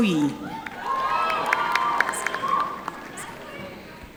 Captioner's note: audience applauding